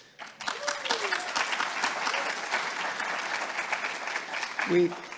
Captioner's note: audience applauding